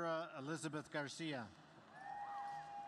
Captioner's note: cheers and applause